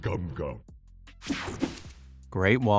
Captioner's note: image whipping effect